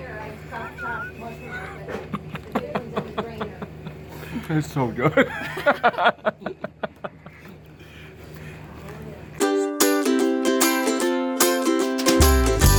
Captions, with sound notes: - (laughing) That is so good. (upbeat music)